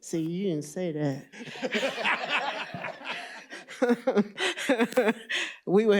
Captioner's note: laughter